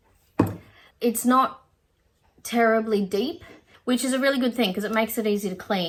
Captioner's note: none